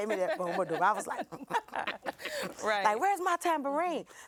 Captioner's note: laughs